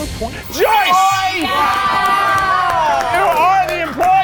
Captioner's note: everyone cheering